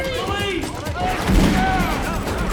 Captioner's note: gunshot